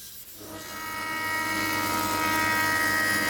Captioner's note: drilling